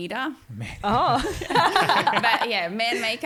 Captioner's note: all laughing